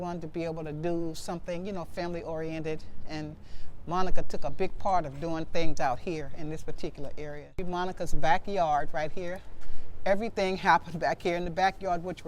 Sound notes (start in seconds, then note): none